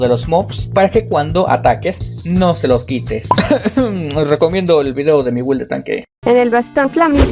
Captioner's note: cough